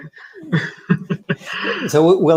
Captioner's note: laughs